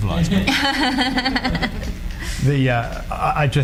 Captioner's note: laughing